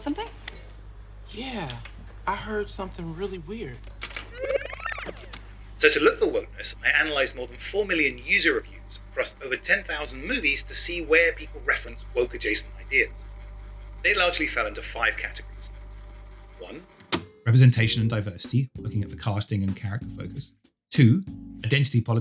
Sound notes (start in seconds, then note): 4.1 electronic trilling